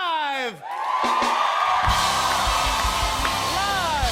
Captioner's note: cheers and applause